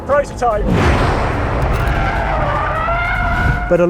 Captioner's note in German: Reifenquietschen